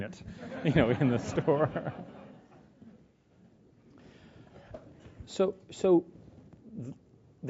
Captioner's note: laugh